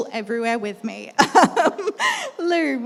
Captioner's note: laughs